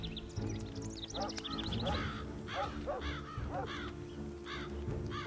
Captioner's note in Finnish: koirien haukuntaa